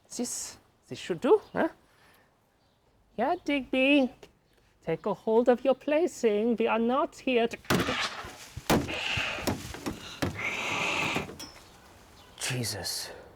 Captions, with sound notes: This, this should do, eh? Here, Digby, take a hold of your play thing, we are not here to- (cat hisses and growls) - Jesus!